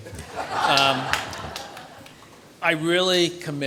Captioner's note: audience laughs